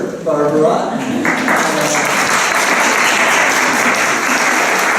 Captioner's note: applause